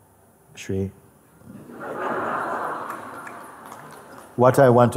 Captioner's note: Lachen